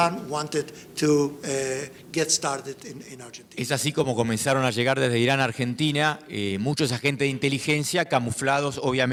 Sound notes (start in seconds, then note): 3.7 speaking in foreign language